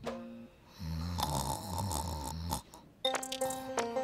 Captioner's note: kid snoring